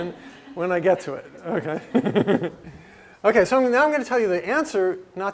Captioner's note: laugh